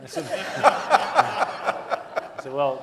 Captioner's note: audience laughing